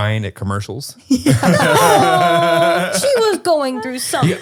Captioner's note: all laugh